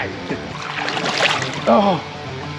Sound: chuckling

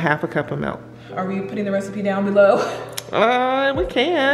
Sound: chuckles

